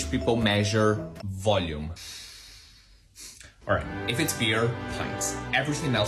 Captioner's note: deep breath